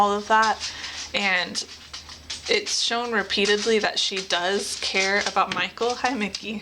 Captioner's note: sound of dog walking up